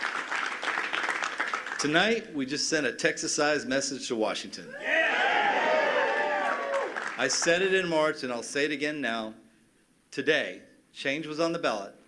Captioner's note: cheers and applause